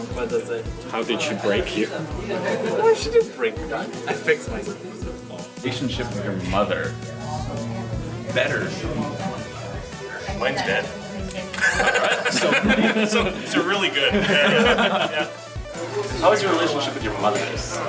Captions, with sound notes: How did she break you? She didn't break me. I fixed myself. How's your relationship with your mother? Better. Mine's dead. [LAUGHS] So really good, yeah. How's your relationship with your mothers?